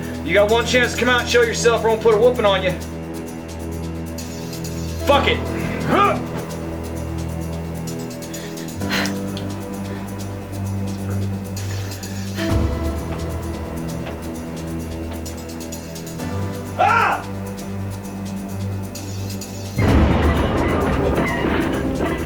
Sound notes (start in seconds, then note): 16.6 yelling from hallway; 19.7 loud crash; 19.8 sounds of struggling